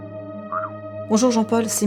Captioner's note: on the phone